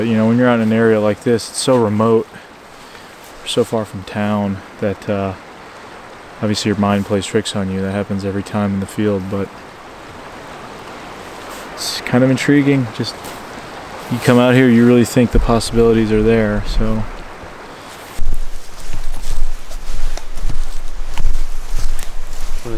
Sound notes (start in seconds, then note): 10.5 water flowing; 17.6 water flowing; 20.2 leaves crunching